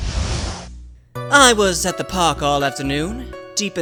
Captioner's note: none